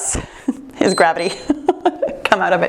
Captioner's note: timer beeps